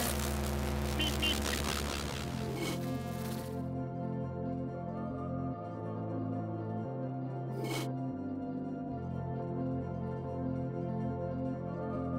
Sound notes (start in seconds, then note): 0.0 TV static; 1.0 meep meep; 8.1 soft music